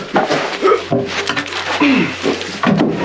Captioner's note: grunts